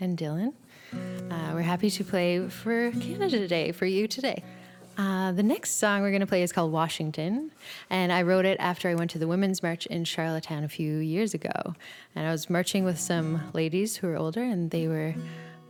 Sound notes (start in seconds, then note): none